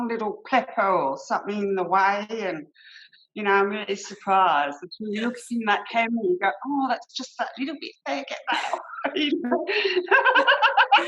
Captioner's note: laughter